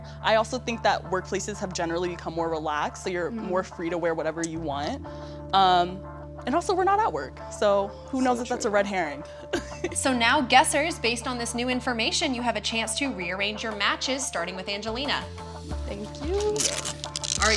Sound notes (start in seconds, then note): 9.5 chuckles